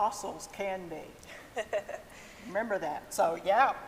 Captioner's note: laughs